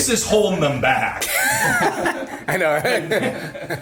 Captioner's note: laughing